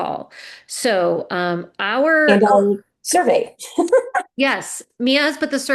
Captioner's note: laughs